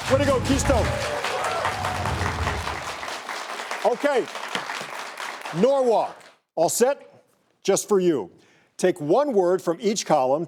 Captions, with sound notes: Way to go Keystone. [Clapping And Cheering] Okay. Norwalk, all s?et Just for you. Take one word from each column